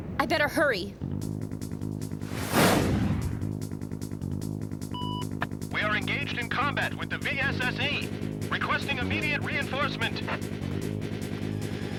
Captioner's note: game audio